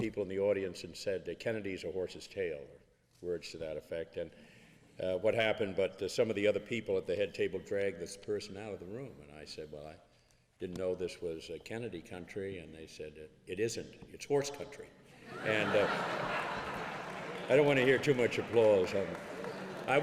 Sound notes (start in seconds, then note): 15.2 laughing